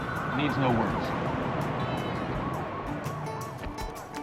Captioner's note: siren wailing distantly